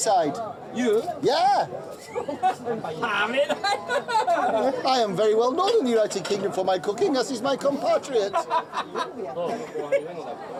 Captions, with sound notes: Could I cook from this side? -You? -Yeah! [speaking Japanese, laughs] I am well known in the United Kingdom for my cooking as is my compatriot. [chef laughing]